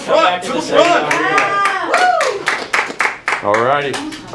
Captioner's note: tired cheering